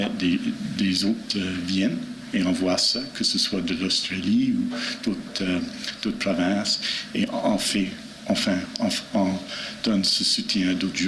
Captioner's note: speaking French